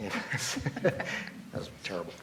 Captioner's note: laughs